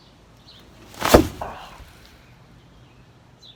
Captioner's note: thump